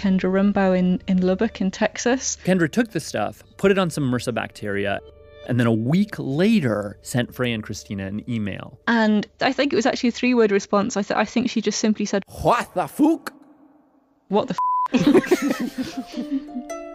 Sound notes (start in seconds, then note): 12.8 speaking Old English; 14.9 laughs